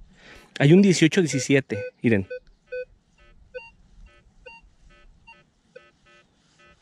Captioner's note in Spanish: sonidos de bep bep del detector; sonidos del detector